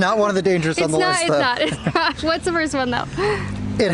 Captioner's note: laughter